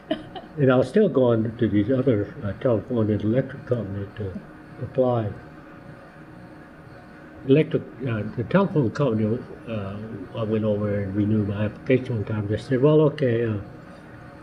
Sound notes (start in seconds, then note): 0.1 laughter